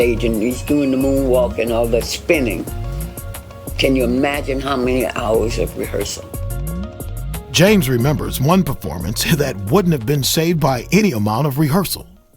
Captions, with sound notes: "and he's doing the moonwalk and all that spinning, "can you imagine how many hours of rehearsal?" - [Voiceover] James remembers one performance that wouldn't have been saved by any amount of rehearsal.